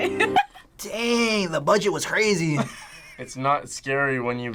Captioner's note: laughs; laughs